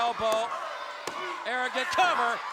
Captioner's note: hands thudding